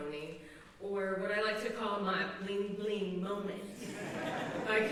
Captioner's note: laughter